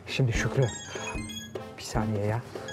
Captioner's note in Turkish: Telefon zili sesi